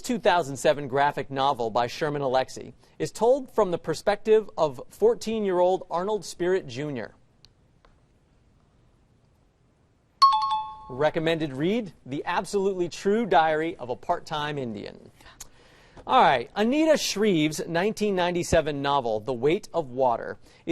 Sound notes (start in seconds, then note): 10.2 chiming